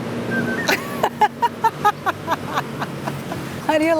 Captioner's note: laughs